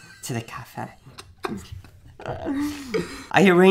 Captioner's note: laughing